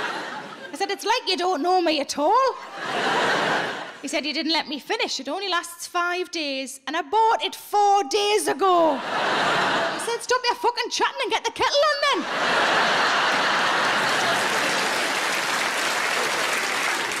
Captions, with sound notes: I said, "It's like you don't know me at all." He said, "You didn't let me finish. It only lasts five days and I bought it four days ago." I said, "Stop your fucking chatting and get the kettle on then." (audience laughing) (audience applauding)